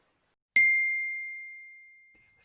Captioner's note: ding